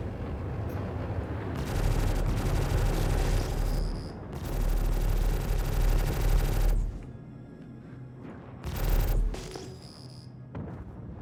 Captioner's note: gun fires